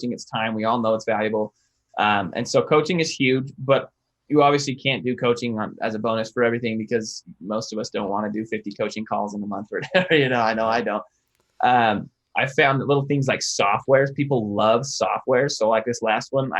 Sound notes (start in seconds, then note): 10.2 chuckles